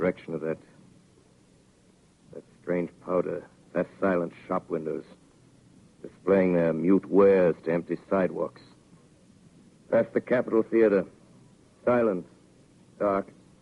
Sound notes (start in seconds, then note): none